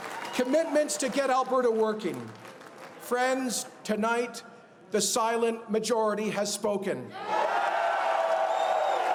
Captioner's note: applause